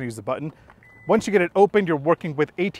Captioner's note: soft beep